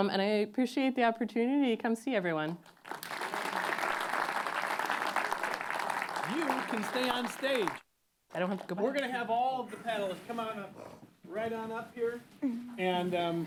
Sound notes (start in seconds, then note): 2.6 applause